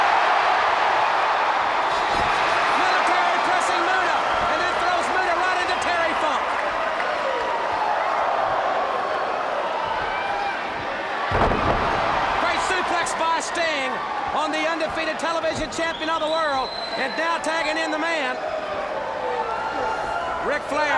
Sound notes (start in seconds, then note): 0.3 crowd cheering; 7.2 crowd chatter; 12.8 crowd cheering